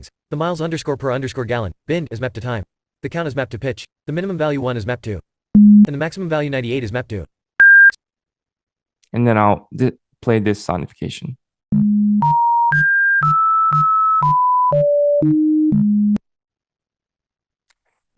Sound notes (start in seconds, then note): 5.6 lower beep sound; 8.1 higher beep sound